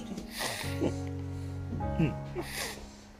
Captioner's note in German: Weinen